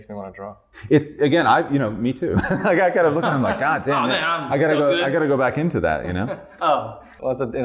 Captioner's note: laughter